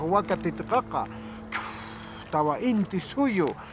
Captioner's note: speaking Quechua; exhales